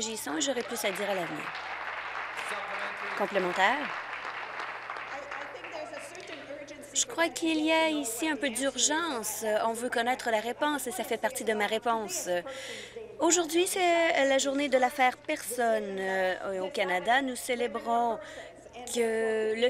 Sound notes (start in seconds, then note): 4.2 applause